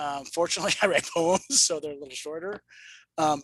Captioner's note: chuckles